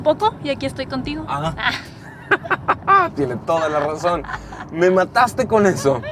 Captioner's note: laughs